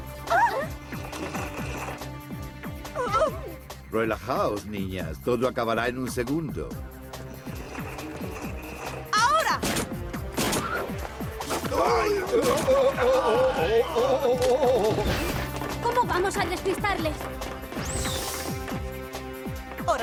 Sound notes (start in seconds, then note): 0.3 girls shriek; 9.6 blasts